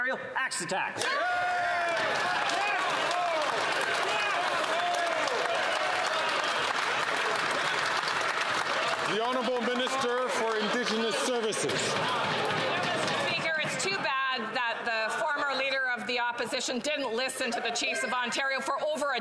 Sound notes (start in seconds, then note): 4.2 some Applause